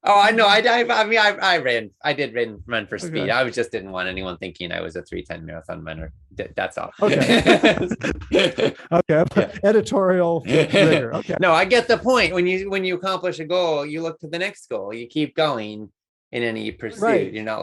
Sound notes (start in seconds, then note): 6.9 laughs